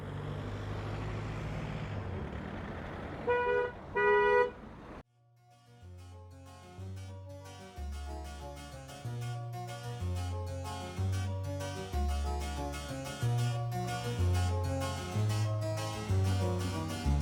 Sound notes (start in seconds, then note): 3.2 car horn honking; 7.0 upbeat music